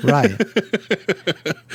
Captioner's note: laughs